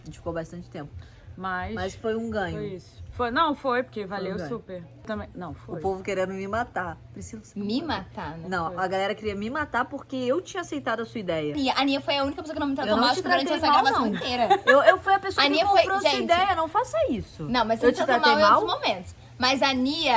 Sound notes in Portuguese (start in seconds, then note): 13.8 laughing